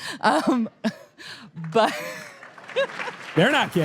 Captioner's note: audience laughter; audience applause